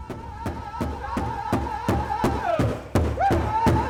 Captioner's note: chanting